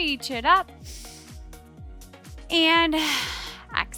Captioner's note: breathing heavily